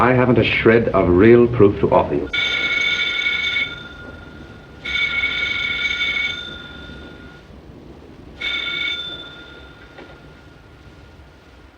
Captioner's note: phone ringing